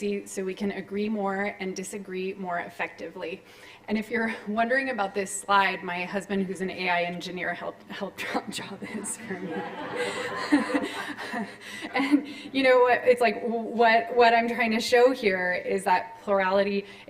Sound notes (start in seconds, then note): 8.9 laughter